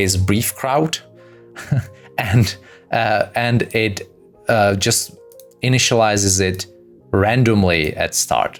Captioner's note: laughs